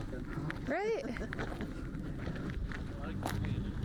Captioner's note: laughter